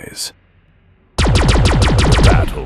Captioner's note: weapons firing